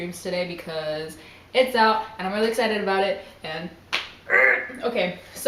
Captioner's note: excited noise